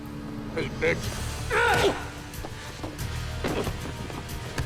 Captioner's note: Remi grunts